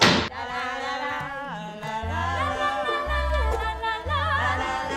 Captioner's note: children humming